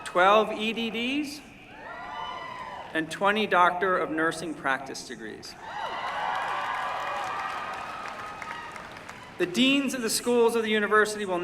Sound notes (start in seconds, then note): 5.6 cheering